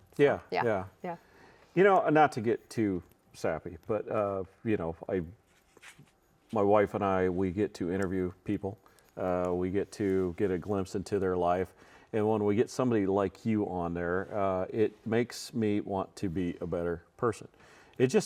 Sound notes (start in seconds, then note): none